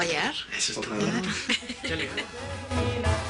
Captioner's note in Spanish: Risas